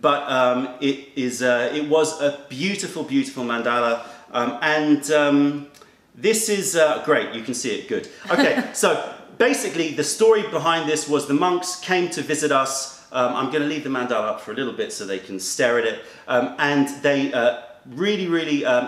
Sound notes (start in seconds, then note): 8.3 laughter